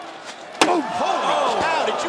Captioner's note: chair slamming